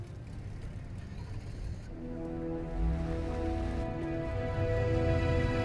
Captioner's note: car starting; upbeat dramatic music